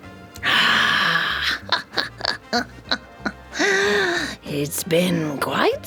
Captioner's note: laughs